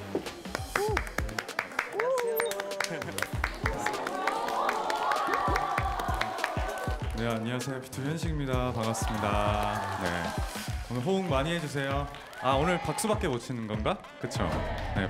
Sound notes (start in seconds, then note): 5.2 crowd buzzing; 14.1 applause instead of shouts